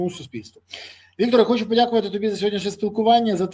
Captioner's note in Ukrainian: сопіння